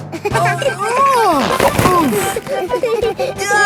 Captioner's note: giggling; grunting; giggling